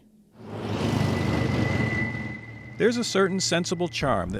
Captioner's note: truck rumbling